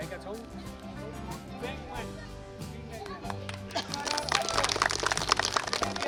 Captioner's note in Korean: 박수